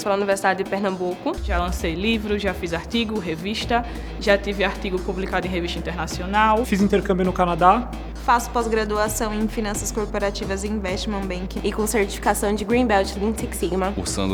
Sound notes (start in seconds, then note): 0.1 woman speaking Portuguese; 6.7 man speaking Portuguese; 8.5 woman speaking Portuguese; 14.1 man speaking Portuguese